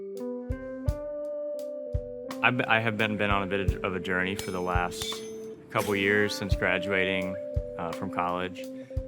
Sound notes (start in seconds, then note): 4.3 metal clinking